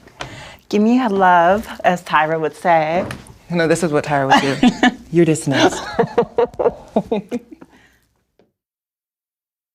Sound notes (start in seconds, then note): 5.6 shared laughter